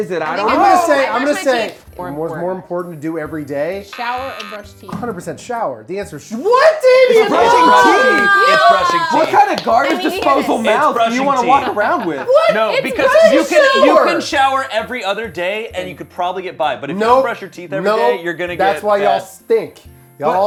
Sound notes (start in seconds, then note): 3.9 buzzer; 7.9 groans